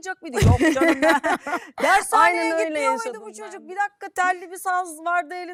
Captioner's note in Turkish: kahkaha